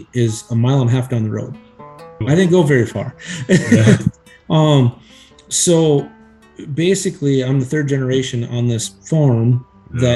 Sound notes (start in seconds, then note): 3.2 laughs